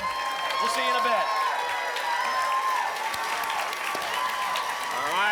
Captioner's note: applause and cheering